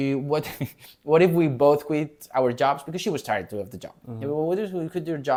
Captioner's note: laughs